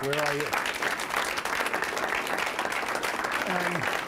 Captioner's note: applause